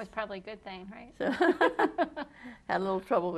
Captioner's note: laughter